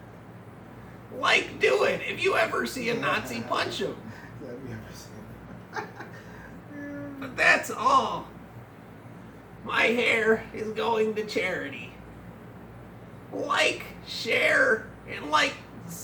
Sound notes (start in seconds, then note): 5.2 laughs